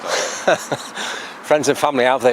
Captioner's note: laughs